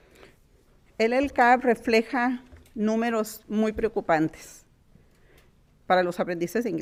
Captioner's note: speaking in foreign language